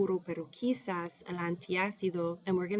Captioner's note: spanish; speaking spanish